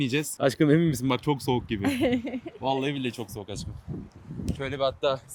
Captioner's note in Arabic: ضحكة